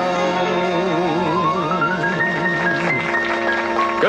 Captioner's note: applause